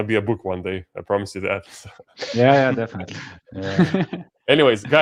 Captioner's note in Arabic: يضحك بسخرية